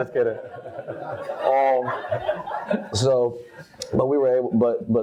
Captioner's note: all laugh